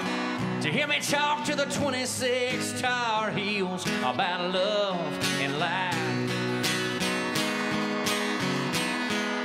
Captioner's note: cheers and applause